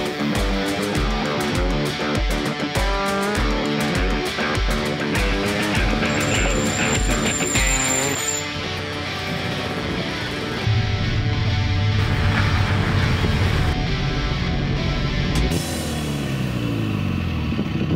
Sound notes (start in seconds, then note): 7.0 squealing; 10.6 engine rattling; 13.7 rock music; 15.4 the exhaust rattling